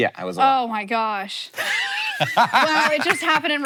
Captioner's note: Hank laughing